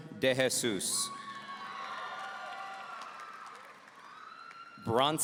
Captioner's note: audience cheering